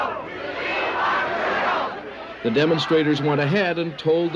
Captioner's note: crowd chanting